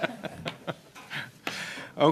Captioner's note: laughter